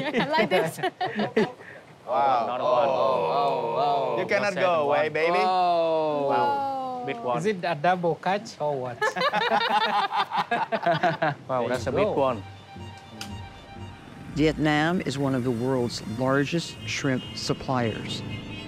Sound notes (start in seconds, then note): 9.0 all chuckling